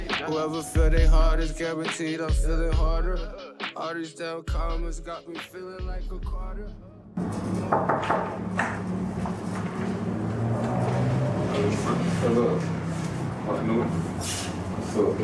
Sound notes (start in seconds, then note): 7.1 traffic roaring; 7.6 person knocking